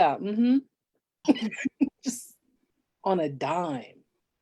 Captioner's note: laughs